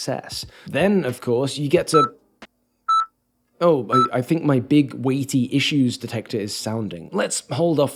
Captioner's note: beeping